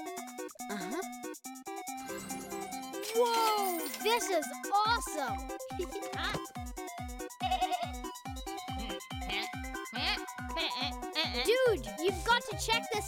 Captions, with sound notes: Uh-huh... Whoa! This is awesome! - Huh? (bleating) (bleating) - Dude! You've got to check this out!